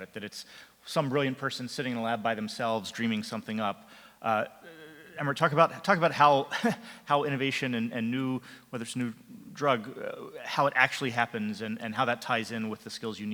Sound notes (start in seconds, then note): 6.7 laughs